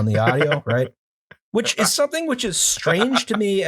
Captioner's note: laughter